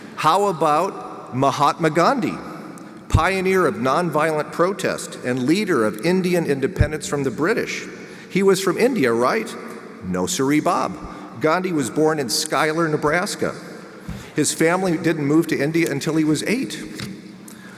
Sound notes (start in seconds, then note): none